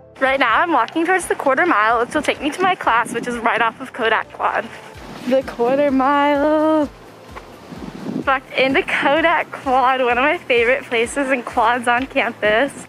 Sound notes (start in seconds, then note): 5.1 whispering